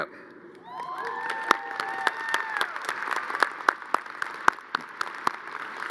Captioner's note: crowd cheering and applauding